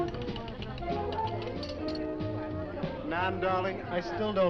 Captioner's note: people chattering; upbeat music